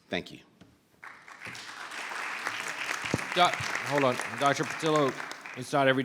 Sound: applause

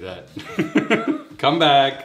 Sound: laughing

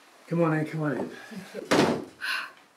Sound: door shutting closed

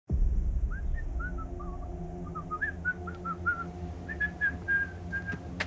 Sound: whistling

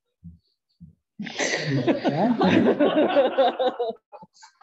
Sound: laughter

